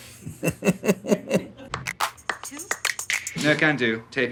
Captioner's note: Alan laughs